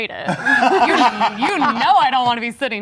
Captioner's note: everyone laughing